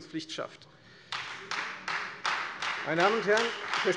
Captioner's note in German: Beifall Freie Demokraten